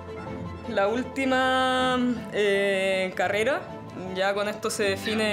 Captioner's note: speaking in foreign language